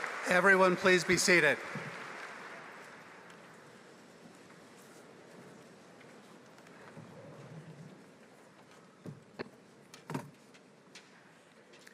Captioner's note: applause